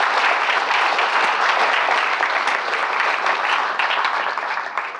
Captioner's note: applause